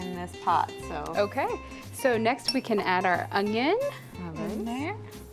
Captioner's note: sizzling